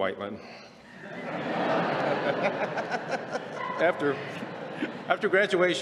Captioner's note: laughter